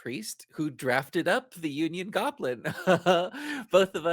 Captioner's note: laughs